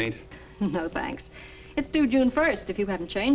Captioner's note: chuckles